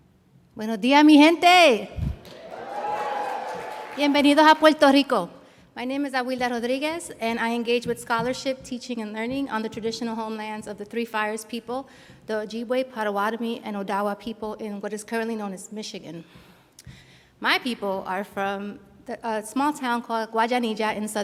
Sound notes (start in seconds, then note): 0.6 speaking in foreign language; 2.2 audience applauds; 4.0 speaking in foreign language